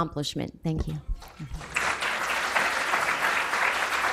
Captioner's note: applause